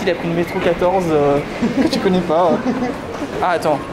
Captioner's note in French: Rires